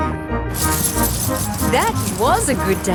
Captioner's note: coins jingling